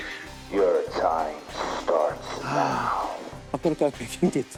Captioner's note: sighs